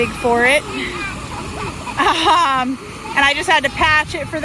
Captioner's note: laughs; kids cheer